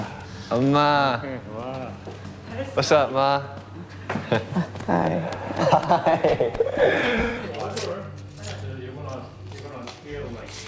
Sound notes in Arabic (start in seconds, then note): 5.6 ضحك